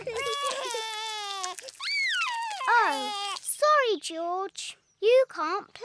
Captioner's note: cries; screams